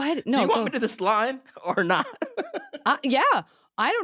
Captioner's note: laughing